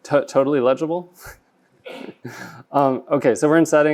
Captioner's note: laughs